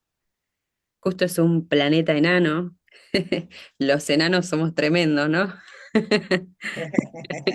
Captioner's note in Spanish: risas